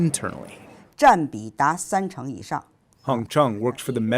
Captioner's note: speaking foreign language